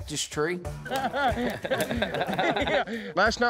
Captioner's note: laughter